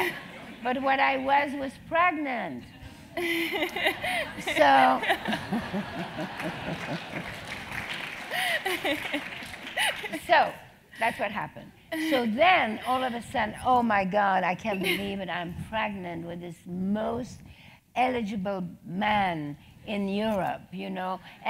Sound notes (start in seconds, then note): 0.6 laugh; 4.0 applause